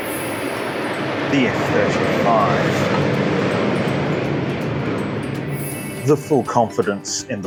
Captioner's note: airplane noises from overhead